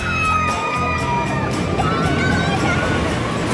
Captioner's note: riders screaming